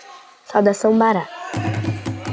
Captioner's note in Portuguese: narração infantil